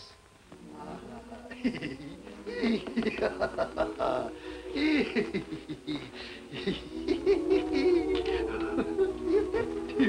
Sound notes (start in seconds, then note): 1.0 Ebenezer laughing